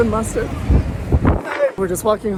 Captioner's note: wind blowing